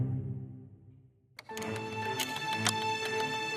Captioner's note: typing